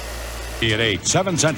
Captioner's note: Static